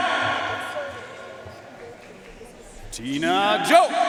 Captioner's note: audience cheering and applauding